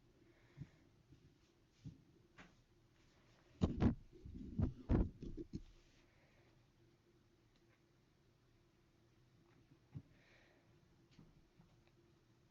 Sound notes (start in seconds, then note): 3.6 moving Mic Noises; 5.7 silence